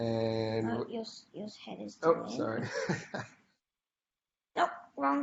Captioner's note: laughs